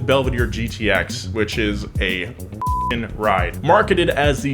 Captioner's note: beep